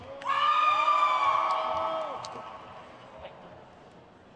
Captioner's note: crowd cheers